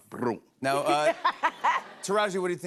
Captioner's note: laughter